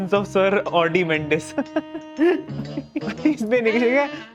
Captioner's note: laughing